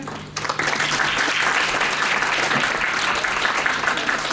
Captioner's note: audience applauds